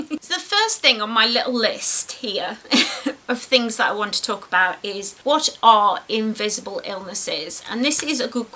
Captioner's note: laughs